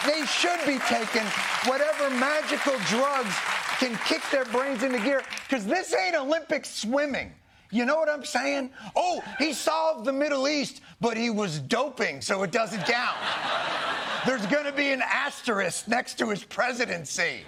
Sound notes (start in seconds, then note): 12.7 laughter